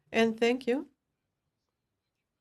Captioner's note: speaking French